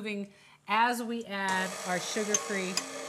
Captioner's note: mechanical humming